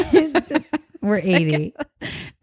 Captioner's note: both laugh